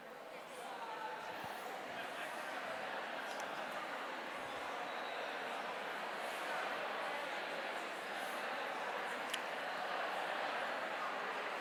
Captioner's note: indistinct chatter